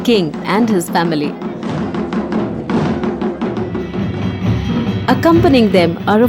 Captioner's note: intense drumming; metal clanking